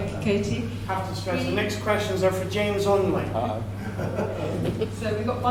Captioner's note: laughter